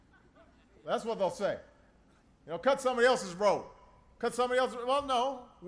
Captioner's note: laughter